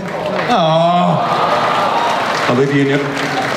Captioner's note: audience cheers; voiceover